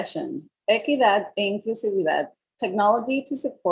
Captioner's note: speaking in Foreign Language